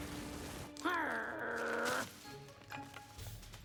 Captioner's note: snarl